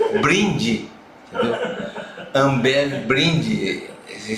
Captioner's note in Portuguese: risos